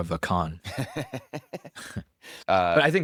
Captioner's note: laughs